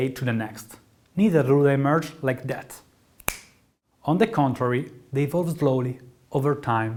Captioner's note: narrator snaps finger